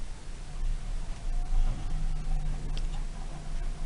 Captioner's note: nice motor sound, though a bit quiet